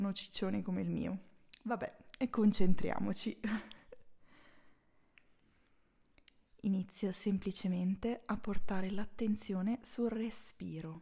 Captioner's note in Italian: risata